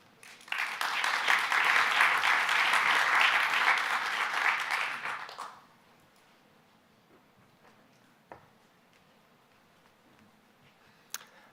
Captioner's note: applause